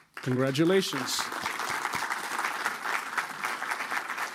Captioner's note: applause